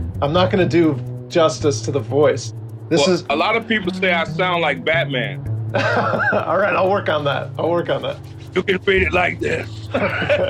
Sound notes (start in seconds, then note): 5.7 laughs; 9.2 speaking hoarsely